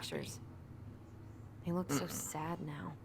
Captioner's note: grumble